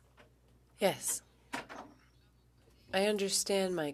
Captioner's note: speaking French